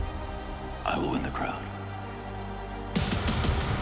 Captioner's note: dramatic music rising; male Voice